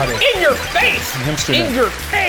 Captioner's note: digital pulsing